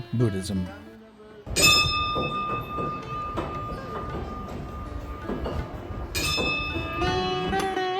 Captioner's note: bell ringing